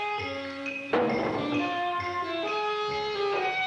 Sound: clanking

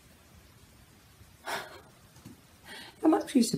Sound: sigh

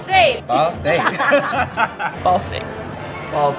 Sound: laughter

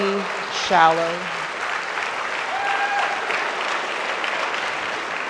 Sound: audience applauds

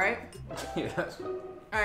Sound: laughs

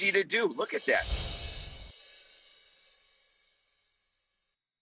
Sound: light chiming

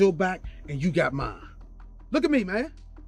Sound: man speaks foreign language

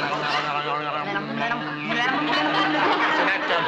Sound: humming with open mouth

